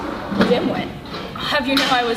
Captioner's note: door closes